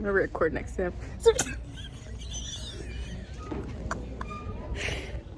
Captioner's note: giggling